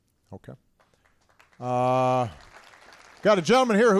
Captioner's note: applause